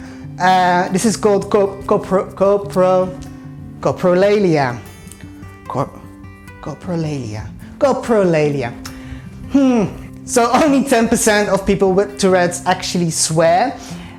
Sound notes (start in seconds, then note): 2.1 stumbles over words; 9.2 frustrated noises